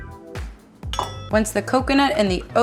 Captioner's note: metal dings